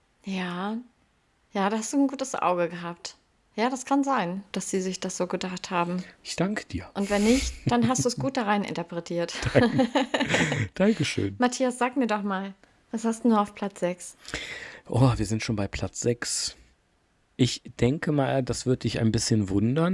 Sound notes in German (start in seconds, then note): 9.3 gelächter